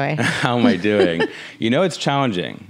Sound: laughs

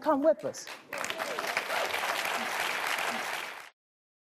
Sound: audience applauds

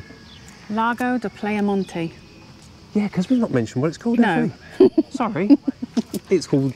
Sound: laughter

